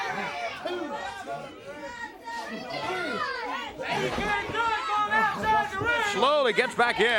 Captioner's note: crowd chatter